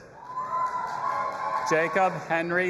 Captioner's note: audience applauding and cheering